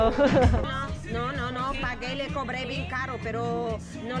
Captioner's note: conversation is in spanish